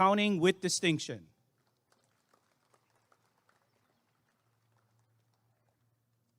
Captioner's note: applause and cheering